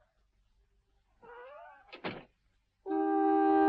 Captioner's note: door creaking; mournful music